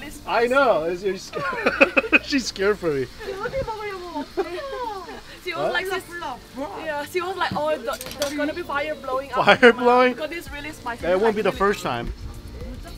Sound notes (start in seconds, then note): 1.3 laughs; 3.5 speaking in foreign language